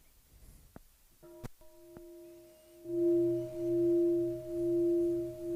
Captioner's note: bell